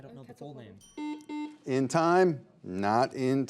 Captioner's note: buzzer buzzes